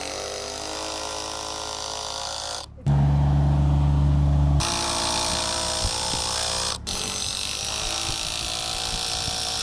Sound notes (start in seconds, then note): 0.1 drill whirring; 2.8 motor humming; 4.6 drill whirring